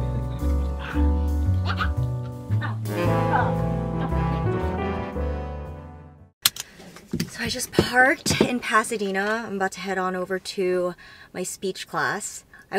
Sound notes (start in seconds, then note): 6.4 seatbelt clicks